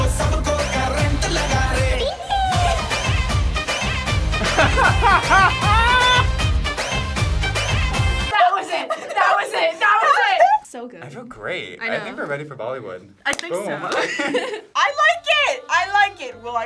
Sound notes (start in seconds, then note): 4.3 laughs; 13.9 both laugh